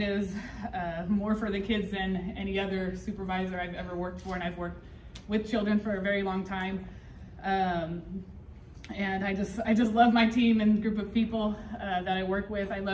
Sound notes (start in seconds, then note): none